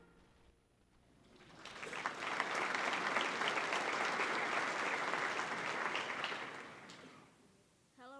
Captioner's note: applause